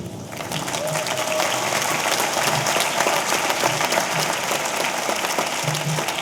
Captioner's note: audience applauding; audience cheering